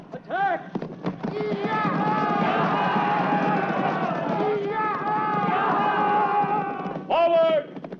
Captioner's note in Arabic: ضربات حوافر الخيول; يصرخ الرومان